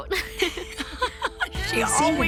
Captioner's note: laughs